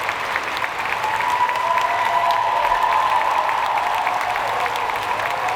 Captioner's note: audience cheering